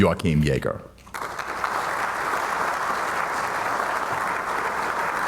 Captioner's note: audience applauding